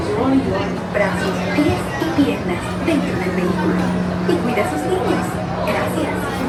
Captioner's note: cast Member speaks in Spanish